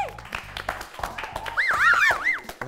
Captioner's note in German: Pfeifende Laute